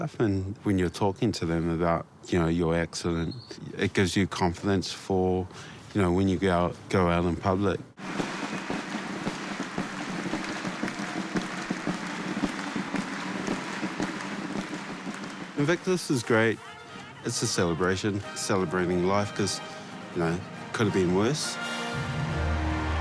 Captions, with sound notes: 'and when you're talking to them about your accident,' it gives you confidence for when you go out in public. (CHEERING, APPLAUSE) Invictus is great. It's a celebration — celebrating life cos, you know, could've been worse.